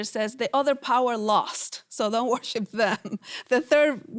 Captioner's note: laughs